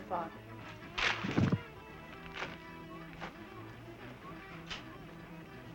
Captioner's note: woman hitting the floor